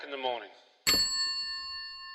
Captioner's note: telephone hanging up